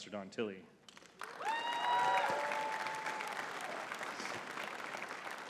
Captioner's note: audience cheering and clapping